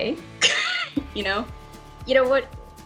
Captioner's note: chuckling